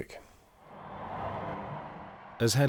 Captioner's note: crowd cheering